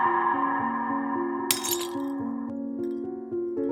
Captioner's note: glass Shattering